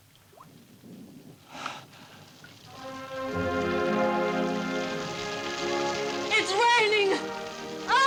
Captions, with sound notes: (rain pattering) (dramatic orchestral music) - It's raining. Oh!